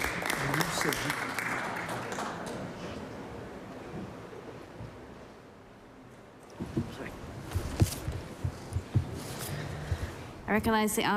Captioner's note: applause